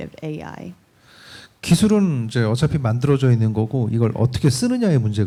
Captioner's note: speaking korean